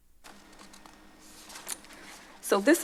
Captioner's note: paper suffling